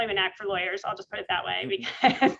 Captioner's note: laughs